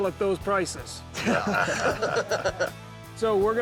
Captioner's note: laughter